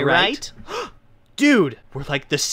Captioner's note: gasp